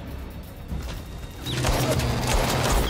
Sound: gunfire

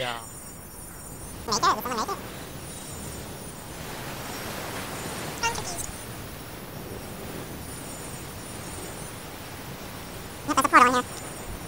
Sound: fast chipmunk voices

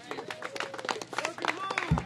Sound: applause

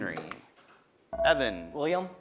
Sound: ding

